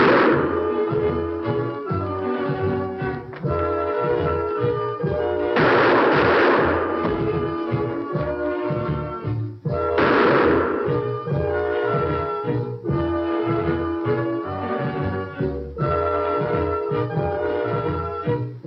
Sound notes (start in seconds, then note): 0.0 gunshot; 5.5 gunshots; 9.9 gunshot